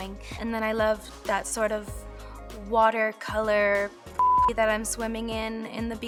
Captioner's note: beeps